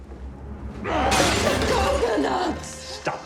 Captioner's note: grunting; glass breaking; tense music plays